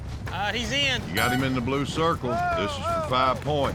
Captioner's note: horn blows